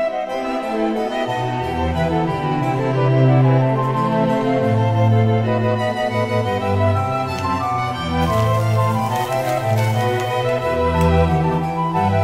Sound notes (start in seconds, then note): 7.2 straw rustling